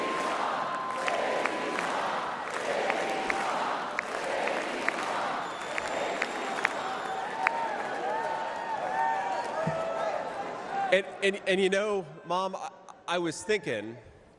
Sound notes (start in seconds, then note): 2.2 crowd chanting